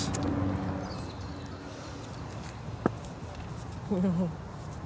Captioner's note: birds chirping